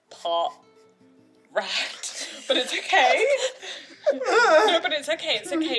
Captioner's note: whimpers in distress